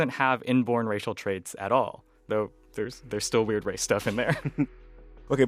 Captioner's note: laughter